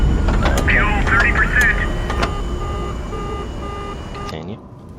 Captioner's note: beeping intensifies